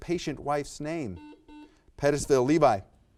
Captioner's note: buzzer buzzes